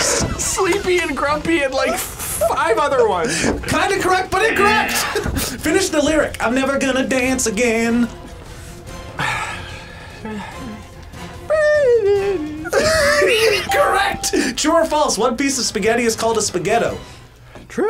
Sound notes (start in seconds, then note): 0.4 laughs; 11.6 laughs